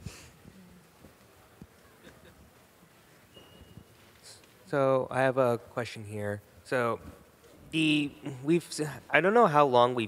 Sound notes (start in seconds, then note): 1.8 chuckling